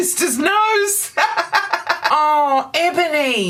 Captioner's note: laughter